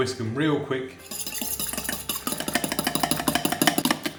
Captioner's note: whisk rattling